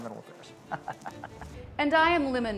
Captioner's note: Thaddeus chuckles